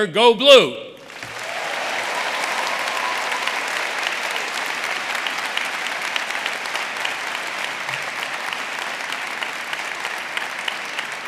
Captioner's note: applause